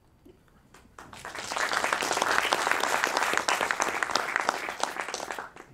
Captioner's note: audience applauding